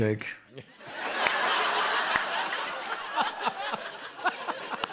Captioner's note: laughter